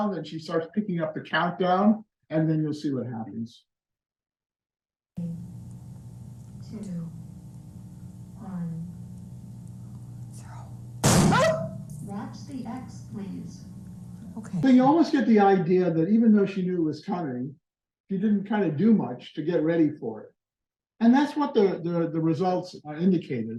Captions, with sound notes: and she starts picking up the count down and then you'll see what happens “3, 2, 1...go” [gunshot] [scream] You almost get the idea that even though she knew it was coming she didn’t kind of do much to get ready for it and that's what the results indicated.